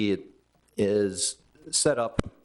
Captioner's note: none